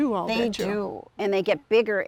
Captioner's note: pat